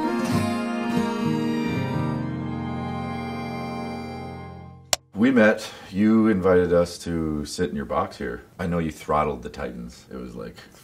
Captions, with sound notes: [clapboard clicks] - We met, you invited us to sit in your box here. I know you throttled the Titans, it was like.